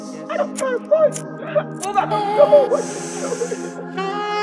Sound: woman crying

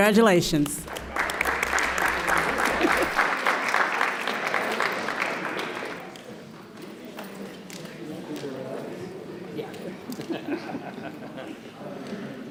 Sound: applause

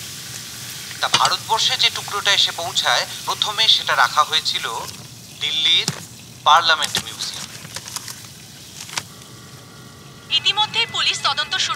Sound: television Voice-over

